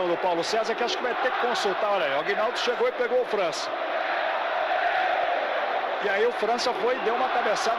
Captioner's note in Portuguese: aplausos